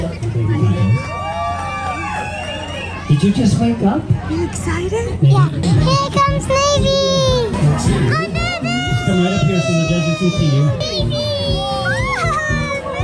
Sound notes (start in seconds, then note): 0.1 cheering; 10.5 cheering